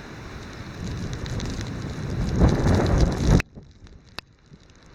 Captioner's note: rain falling